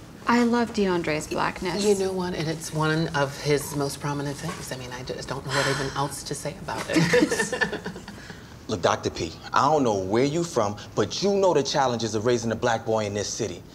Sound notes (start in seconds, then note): 6.9 laughter